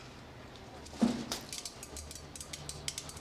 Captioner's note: pills falling